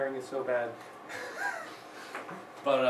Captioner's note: laughs